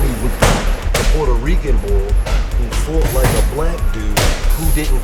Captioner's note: dramatic music; gloves banging